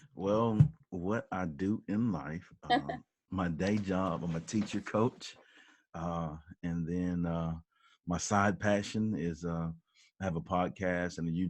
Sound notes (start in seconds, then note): 2.5 laughs